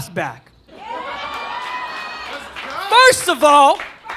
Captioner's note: audience cheering